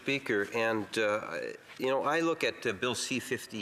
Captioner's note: speaking French